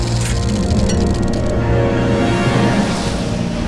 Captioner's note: projector sound